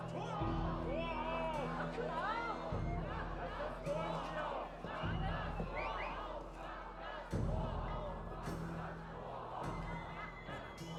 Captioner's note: chant